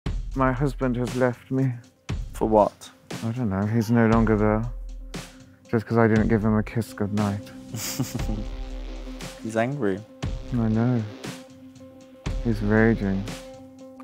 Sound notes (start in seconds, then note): 7.7 laughs